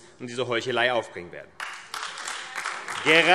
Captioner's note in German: Beifall AfD